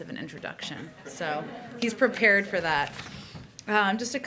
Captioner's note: laughter